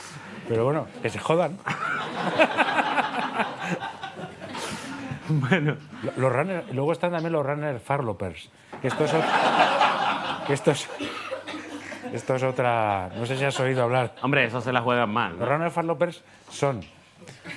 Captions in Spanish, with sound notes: Pero bueno, que se jodan. (Risas) Bueno... Luego están los "runners farlopers", que estos son... (PÚBLICO RÍE) ...que esto es otra... No sé si has oído hablar... Hombre, esos se la juegan más. Los "runners farlopers" son...